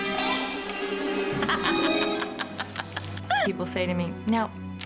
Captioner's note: laughing maniacally